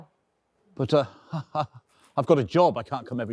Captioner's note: chuckling nervously